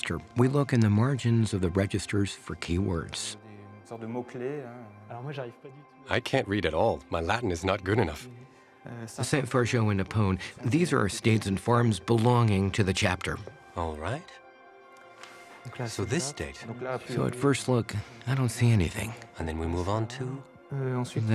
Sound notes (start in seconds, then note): 3.3 both speaking French